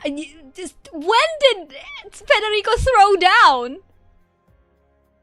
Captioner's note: baffled noises